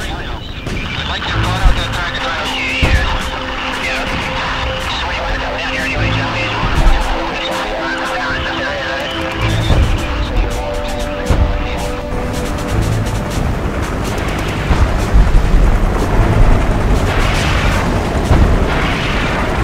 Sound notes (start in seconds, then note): 12.3 helicopter blades whirring